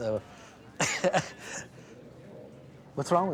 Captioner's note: laughs